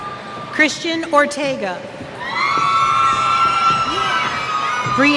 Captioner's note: cheers